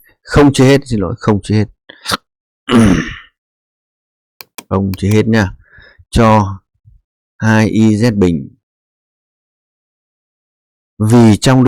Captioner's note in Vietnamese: hắng giọng